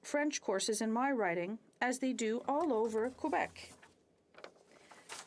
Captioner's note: speaking French